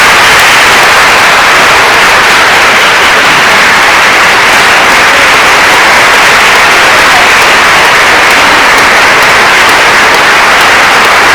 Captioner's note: applause